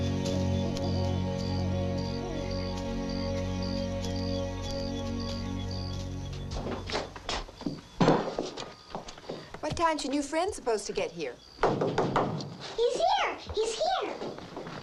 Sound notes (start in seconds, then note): 0.0 crickets chirping; 0.4 owl hooting; 8.1 dishes clinking; 11.6 door knocking